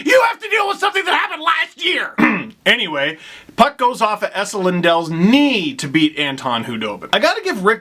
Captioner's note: cough